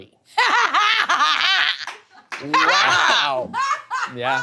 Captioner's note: people laughing